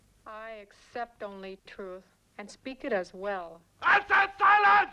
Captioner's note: none